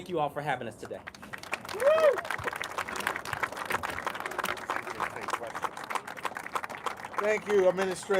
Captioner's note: applause